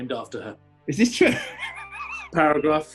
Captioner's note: laughing